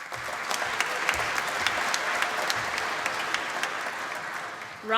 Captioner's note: applause